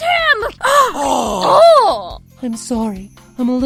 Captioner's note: GASP! x3 COMBO